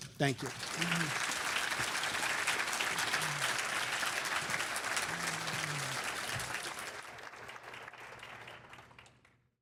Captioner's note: applause